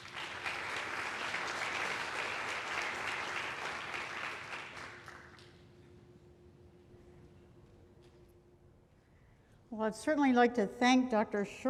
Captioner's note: applause